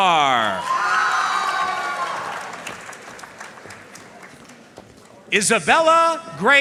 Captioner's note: audience cheering and applauding